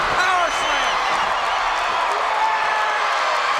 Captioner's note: crowd cheers